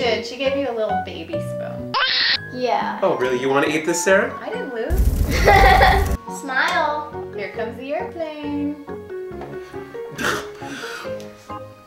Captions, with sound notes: - You did. She gave you a little baby spoon. (baby crying) - Yeah. - Oh, really? You wanna eat this, Sarah? - I didn't lose. (laughing) - Smile. - Here comes the airplane. (gasping for breath)